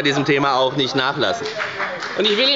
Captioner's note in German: Beifall bei der FDP